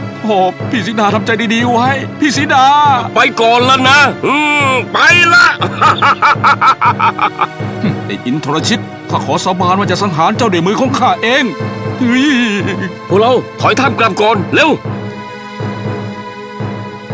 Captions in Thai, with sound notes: โถ่ พี่สีดาทำใจดีๆไว้ พี่สีดา ไปก่อนล่ะนะ ฮึ่มไปล่ะ (หัวเราะ) ไอ้อินทรชิต ข้าขอสาบานว่าจะสังหารเจ้าด้วยมือของข้าเอง ฮึ้ย พวกเรา ถอยทัพกลับก่อน เร็ว